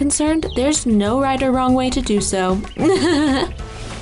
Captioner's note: laughs